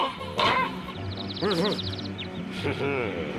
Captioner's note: clanking; birds tweeting